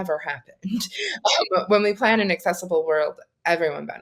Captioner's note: laughing